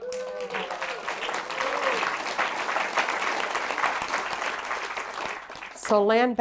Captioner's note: applause